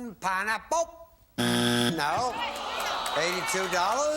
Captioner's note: buzzer